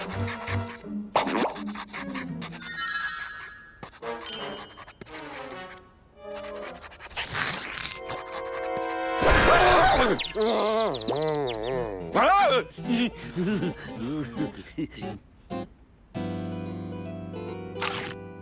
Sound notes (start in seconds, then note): 8.7 furious whirring; 9.4 groaning; 9.6 nervous giggles